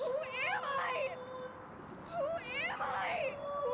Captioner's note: none